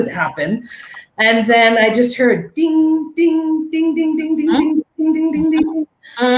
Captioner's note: mimicking dinging sounds